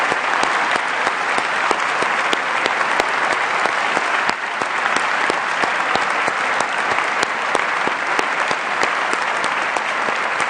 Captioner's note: applause